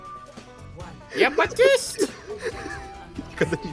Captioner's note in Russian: продолжает истерически смеяться